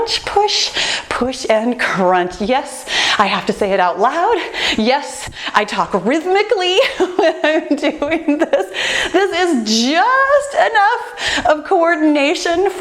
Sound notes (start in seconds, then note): 6.7 laughs